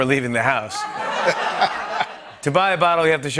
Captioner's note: laughter